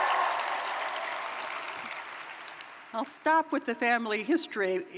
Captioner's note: applause